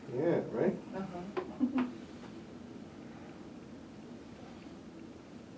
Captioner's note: laughing